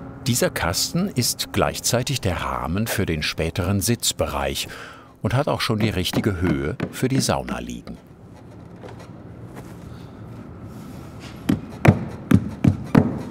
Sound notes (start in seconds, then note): 11.4 hammering